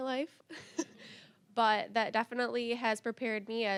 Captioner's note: laughing